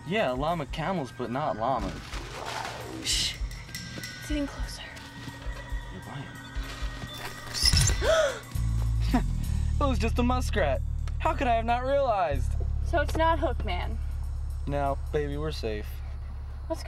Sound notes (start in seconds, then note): 2.5 creature growling